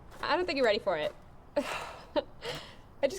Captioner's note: chuckles